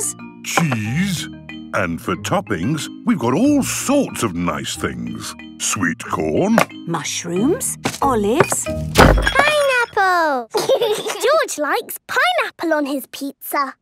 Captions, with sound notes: - Cheese... ...and for toppings, we've got all sorts of nice things. Sweet corn... - Mushrooms, olives... - (bangs) Pineapple! (laughs) - George likes pineapple on his pizza!